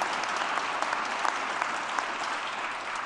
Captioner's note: applause